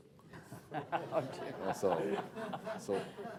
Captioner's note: laughter